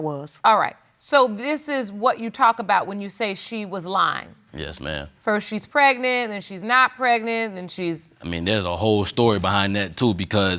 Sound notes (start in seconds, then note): none